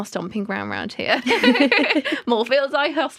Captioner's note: laughter